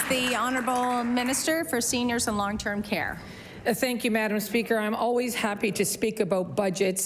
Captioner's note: applause